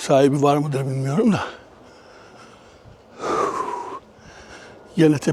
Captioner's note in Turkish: iç çeker